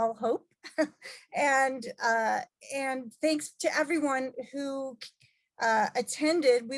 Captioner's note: laugh